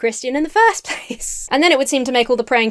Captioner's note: chuckles